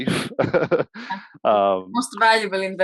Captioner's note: laughs